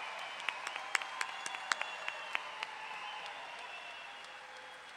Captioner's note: audience clapping